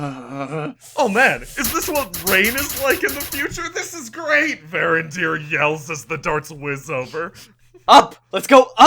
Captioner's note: Varindyr yells as the darts whiz over